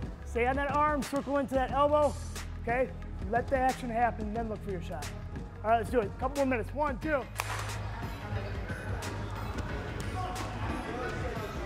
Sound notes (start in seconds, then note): 7.3 claps; 8.8 dramatic music